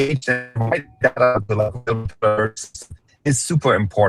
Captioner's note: audio interference